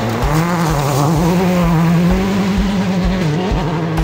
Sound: engine revs

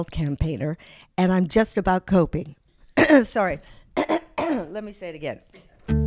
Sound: cough

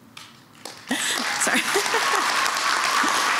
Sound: laughs

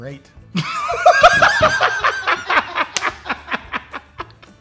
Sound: laughing

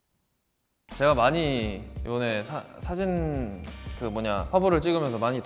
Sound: speaks Korean

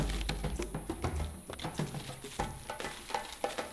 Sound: twigs crunch

